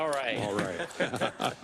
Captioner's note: laugh